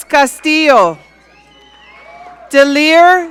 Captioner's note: audience cheering